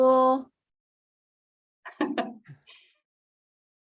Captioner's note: laugh